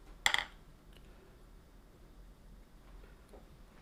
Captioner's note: silence